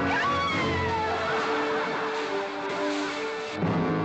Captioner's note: Katherine screams; crowd laughing; hay rustling